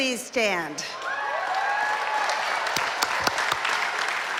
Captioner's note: applause